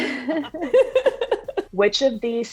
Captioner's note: all laugh